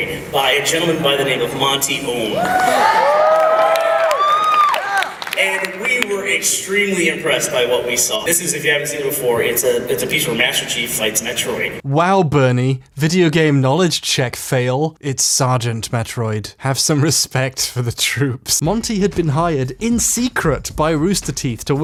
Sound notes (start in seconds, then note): 2.3 cheers and applause